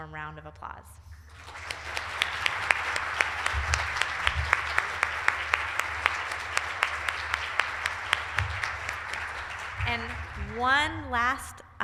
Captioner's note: applause